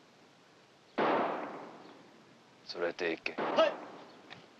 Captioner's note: gunshots; speaking Japanese